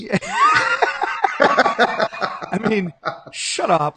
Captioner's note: laughing